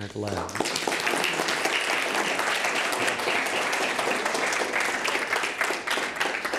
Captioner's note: audience applauding